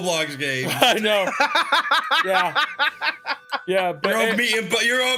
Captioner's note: laughs